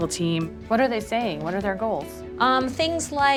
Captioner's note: case workiers talking